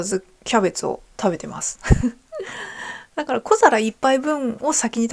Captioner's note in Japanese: 笑い; 息をのむ音